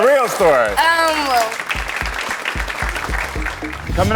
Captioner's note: audience clapping